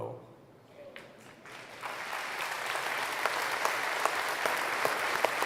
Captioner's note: applause